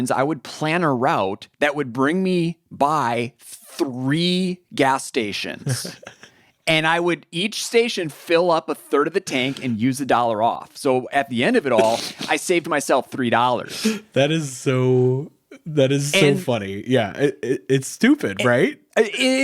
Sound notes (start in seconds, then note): 5.6 chuckles; 14.5 laughs